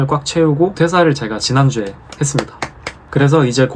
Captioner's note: claps again